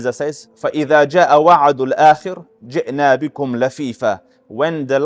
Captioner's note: Arabic